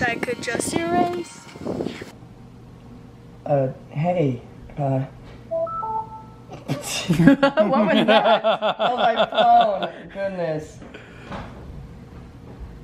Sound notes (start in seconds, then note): 5.5 phone chimes; 6.6 laughs